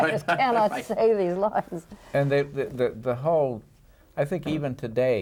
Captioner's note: laughs